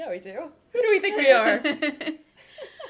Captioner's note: laughter